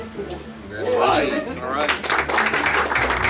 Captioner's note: applause